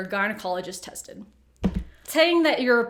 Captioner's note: phone dropping